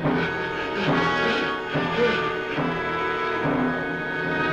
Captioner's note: heavy breathing